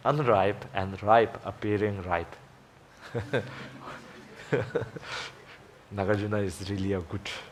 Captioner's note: audience chuckling